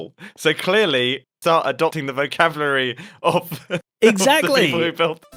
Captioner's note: laughs